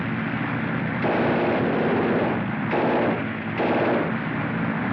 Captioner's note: machine Gun Fire